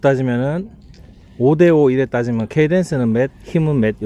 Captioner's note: pedaling